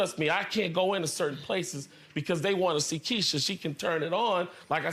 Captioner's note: none